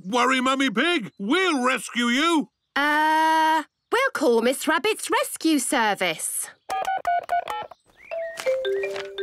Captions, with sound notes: - Don't worry, Mummy Pig! We'll rescue you! - Er.... We'll call Miss Rabbit's Rescue Service! (phone beeping)